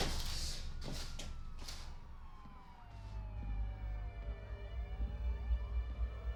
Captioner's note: sirens wail in distance; brooding music